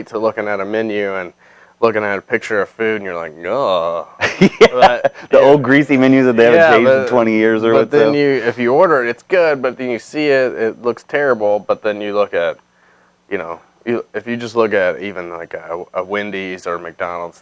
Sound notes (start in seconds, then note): 3.5 groans; 4.0 laughing